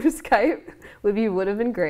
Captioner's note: laughing